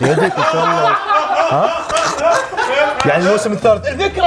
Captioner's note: laughter